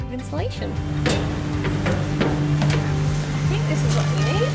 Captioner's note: footsteps tapping